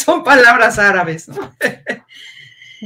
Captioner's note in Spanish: ríe